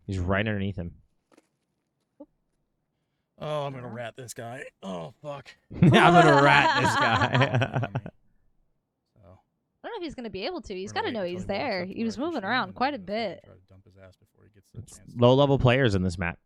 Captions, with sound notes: - He's right underneath him. - Oh, I'm gonna rat this guy. Oh fu--. - Yeah, I'm gonna rat this guy. (laughs) - I don't know if he's gonna be able to. He's gotta know he's there. He was moving around quite a bit. - Low level players in this map.